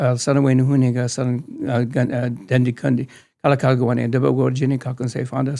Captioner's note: speaking in tongues